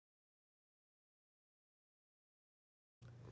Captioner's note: pause